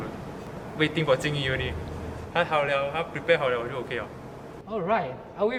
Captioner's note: Mandarin